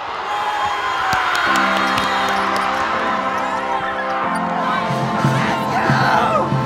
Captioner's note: cheering